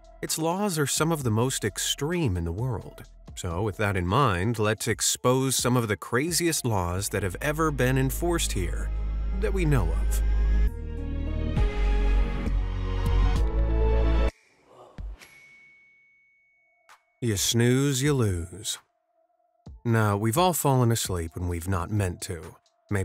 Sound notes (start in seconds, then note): 10.9 adventurous music; 14.0 music stops; 15.7 screen dings